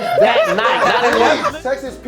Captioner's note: laughing